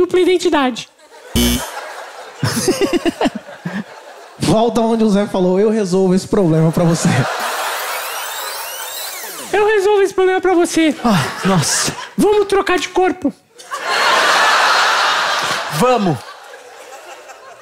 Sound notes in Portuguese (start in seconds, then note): 1.4 campainha; 7.3 fita rebobinando